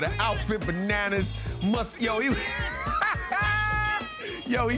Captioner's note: laughs